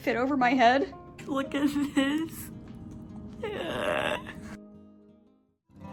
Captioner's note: laughing